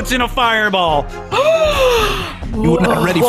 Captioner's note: gasps